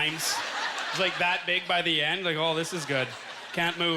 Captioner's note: audience laughter